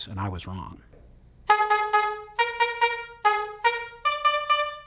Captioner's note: taxi horns playing